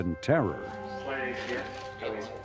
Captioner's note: murmurs